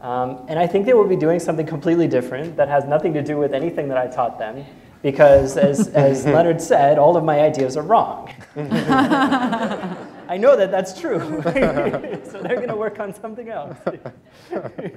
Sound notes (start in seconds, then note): 8.4 laughter